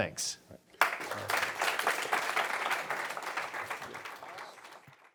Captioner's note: applause